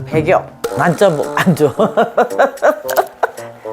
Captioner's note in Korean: 웃음